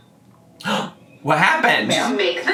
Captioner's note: gasps